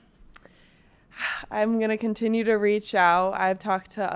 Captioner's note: sighs